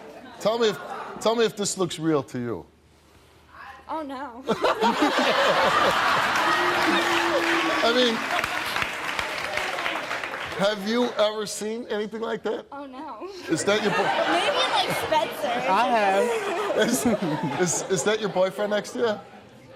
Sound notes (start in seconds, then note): 4.5 laughing; 13.3 laughing